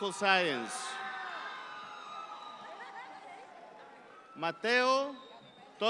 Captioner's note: audience cheer